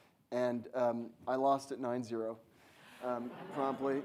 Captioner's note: audience laughs